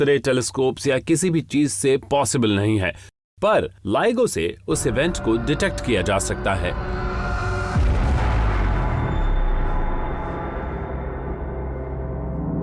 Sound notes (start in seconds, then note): 7.0 explosion blasts